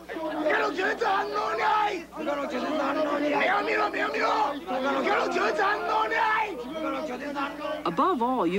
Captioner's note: men loudly mimicking instructions